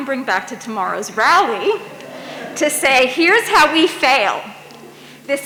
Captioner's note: audience laughs